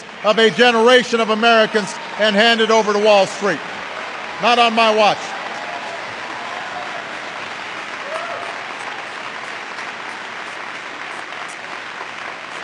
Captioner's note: applause